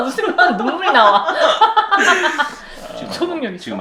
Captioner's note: devil's laughter